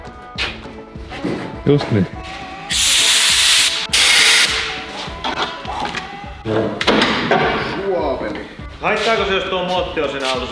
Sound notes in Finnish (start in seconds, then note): 4.4 poran ääni